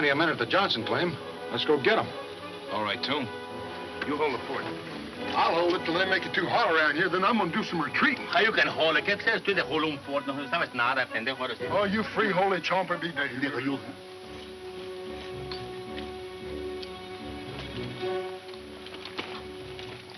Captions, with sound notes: Let's go get 'em. - Alright, Tomb. You hold the fort. - I'll hold it 'til they make it too hot around here, then I'm gonna do some retreatin'. - You can hold it. (speaks in Spanish) - Oh you free holy chompin' be there. (soft music)